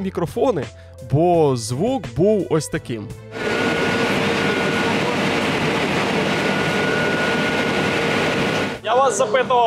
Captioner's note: static noise